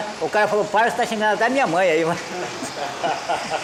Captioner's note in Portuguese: Fala em japonês; Risos